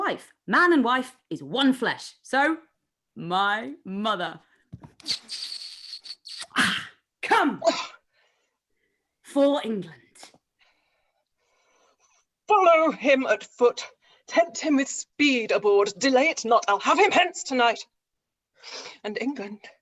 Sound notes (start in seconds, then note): 5.0 kissing sound